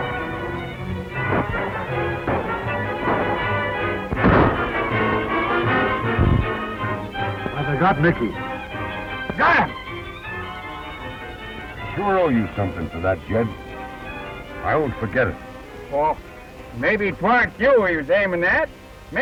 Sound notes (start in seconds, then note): 2.8 gunshot; 5.2 thump